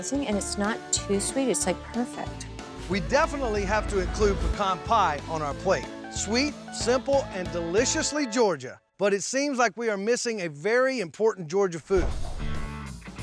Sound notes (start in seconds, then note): none